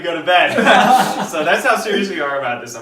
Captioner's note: laughing